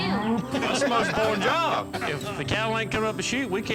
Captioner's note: laughter